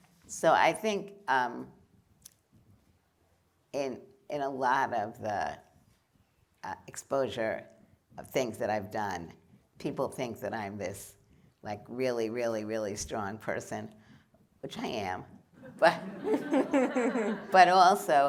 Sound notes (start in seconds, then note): 15.6 laughter